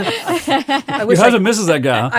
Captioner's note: laughter